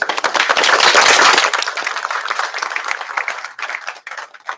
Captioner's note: applause